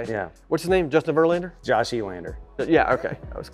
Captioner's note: none